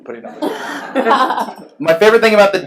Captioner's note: laughs